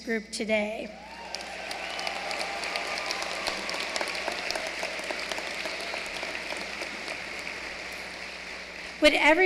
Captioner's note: applause